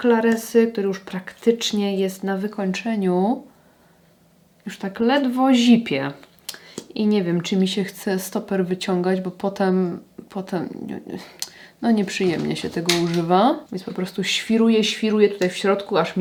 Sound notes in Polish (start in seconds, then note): none